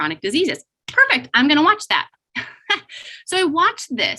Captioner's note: laughs